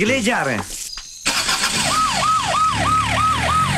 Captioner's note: Engine starts